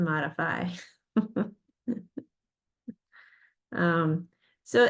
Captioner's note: laughs